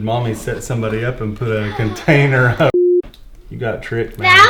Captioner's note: beep